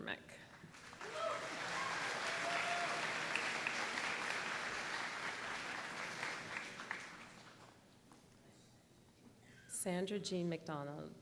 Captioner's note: applause